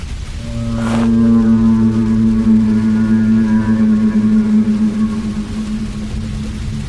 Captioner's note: very close by groan